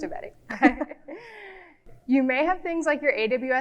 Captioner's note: both speakers laughing